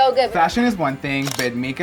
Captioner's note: camera shutter clicks